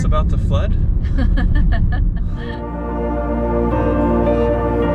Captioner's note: laughing